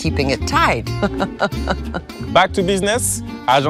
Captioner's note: Sylvie laughs